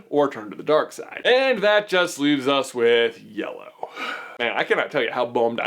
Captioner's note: sigh